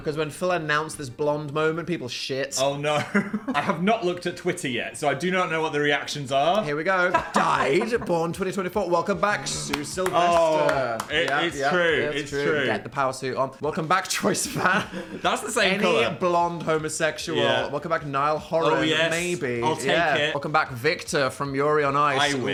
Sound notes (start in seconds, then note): 9.6 claps